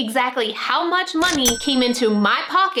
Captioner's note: till ringing